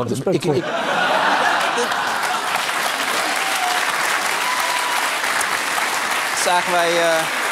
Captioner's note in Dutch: gelach en applaus